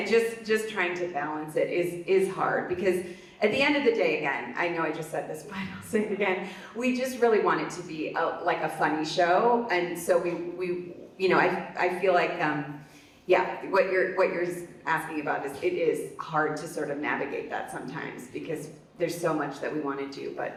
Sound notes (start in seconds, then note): 5.6 laughs